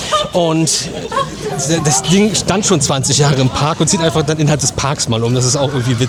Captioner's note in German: gelächter